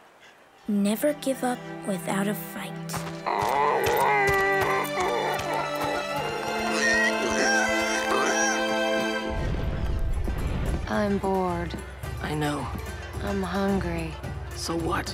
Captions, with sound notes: "Never give up without a fight." [squeaking] [squealing] I'm bored. I know. I'm hungry. So what?